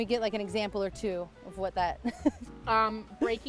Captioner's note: laughs